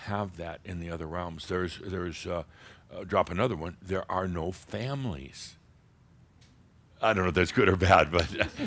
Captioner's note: they chuckle